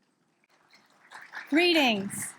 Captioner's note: audience claps